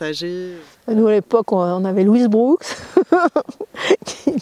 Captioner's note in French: Rires